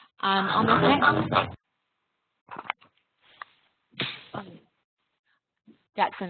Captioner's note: interference disrupts webinar